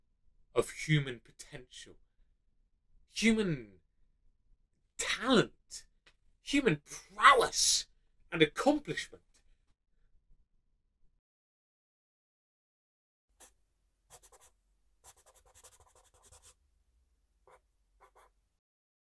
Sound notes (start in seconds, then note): 10.1 sound of pencil scratching onto paper